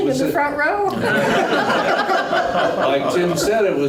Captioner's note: laughter